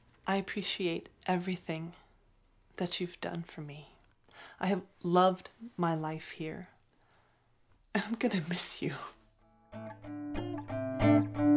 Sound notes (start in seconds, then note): none